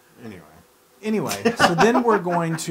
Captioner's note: laugh